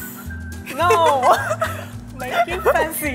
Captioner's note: laughs